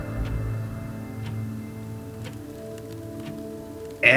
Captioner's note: office sounds in background; angry male coworker's voice overheard